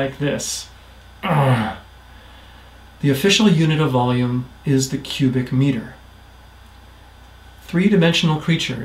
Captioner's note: arg!